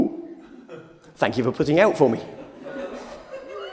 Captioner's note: laughter